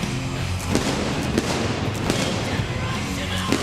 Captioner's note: pyrotechnics bursting